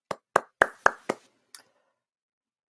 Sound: applause

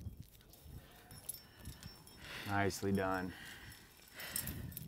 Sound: none

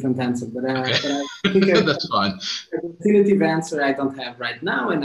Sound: laughing

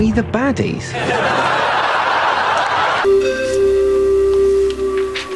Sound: audience laughs

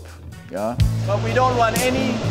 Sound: fans whirring

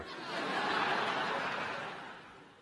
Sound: laughter

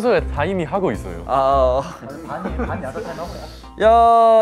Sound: heh

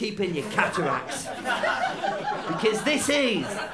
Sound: laughter

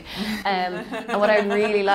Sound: laughing

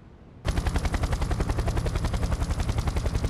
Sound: helicopter takes off

